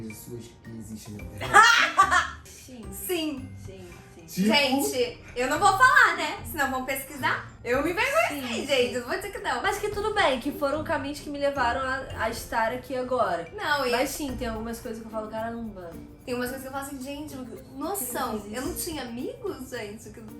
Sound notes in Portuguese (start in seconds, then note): 1.4 risos